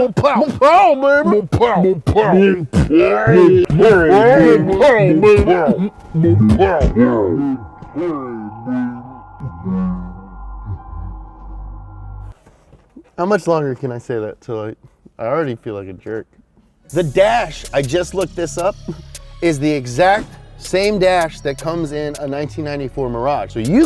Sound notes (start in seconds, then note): 2.7 speech slowed and slurred